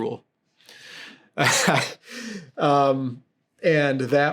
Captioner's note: laughs